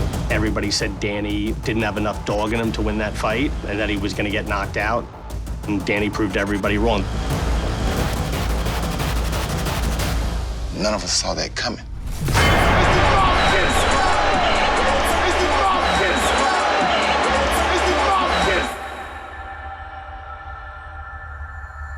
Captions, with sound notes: Everybody said Danny didn't have enough dog in him to win that fight, or that he was gonna get knocked out. And Danny proved everybody wrong. None of us saw that coming. -(JACOBS SHOUTING) -(CROWD CHEERING)